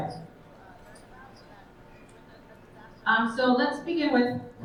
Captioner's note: attendees faintly speaking